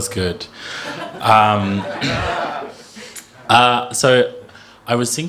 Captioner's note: audience laughing